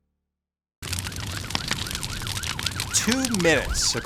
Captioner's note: fire crackling; sirens blaring